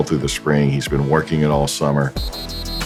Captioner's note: whistles